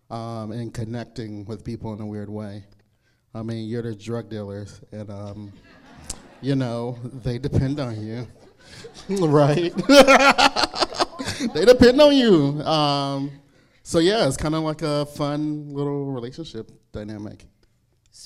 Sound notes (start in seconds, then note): 5.4 crowd laughs; 8.4 laughs